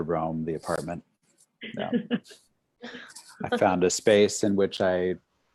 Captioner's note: laughter